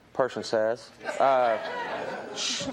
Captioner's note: audience laughing